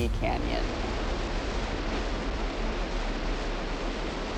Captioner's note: water rushing